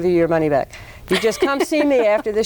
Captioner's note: laughs